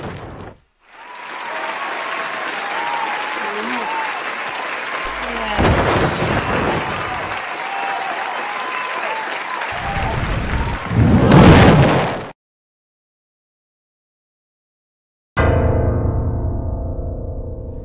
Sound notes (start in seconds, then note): 0.1 crowd cheering; 5.1 crash; 9.8 burning; 11.3 explosion, crowd gasps